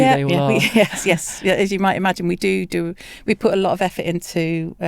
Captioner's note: laughs